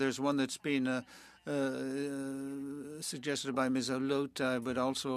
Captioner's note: speaking French